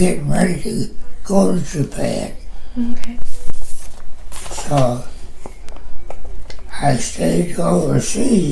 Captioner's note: shuffling papers